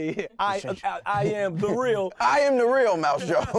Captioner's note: laughing